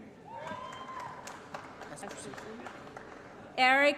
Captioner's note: applause & Cheering